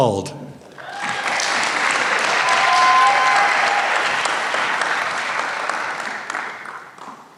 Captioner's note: applause